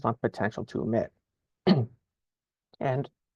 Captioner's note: clears throat